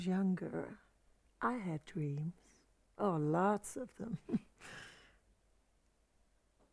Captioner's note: chuckles